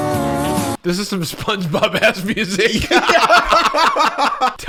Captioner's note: laughing